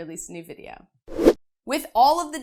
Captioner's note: air whooshing